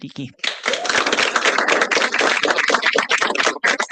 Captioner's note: applause